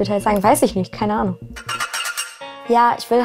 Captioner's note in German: Rasseln